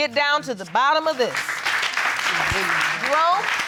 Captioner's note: audience applauding